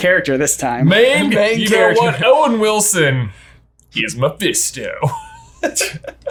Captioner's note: laughs